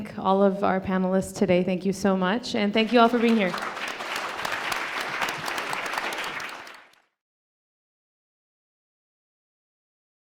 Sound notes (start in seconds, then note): 2.7 audience applauds